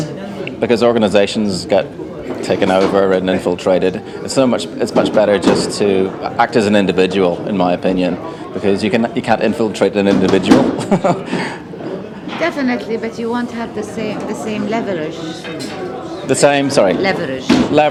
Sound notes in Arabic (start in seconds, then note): 10.7 يضحك